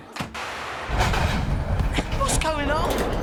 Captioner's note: rumbling